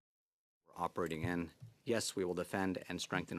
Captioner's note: speaking French